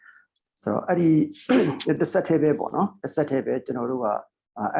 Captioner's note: speaking burmese